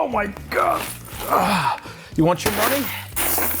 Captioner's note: coins jingling